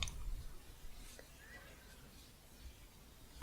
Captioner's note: shuffling